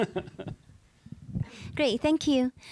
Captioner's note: laughing